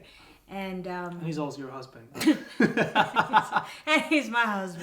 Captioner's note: laughs